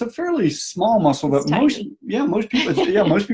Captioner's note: laughs